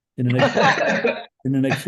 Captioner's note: all laugh